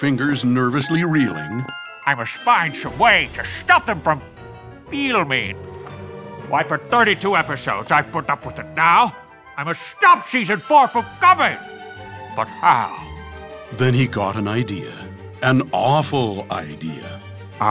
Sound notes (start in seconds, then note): none